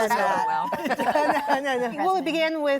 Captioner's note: laughter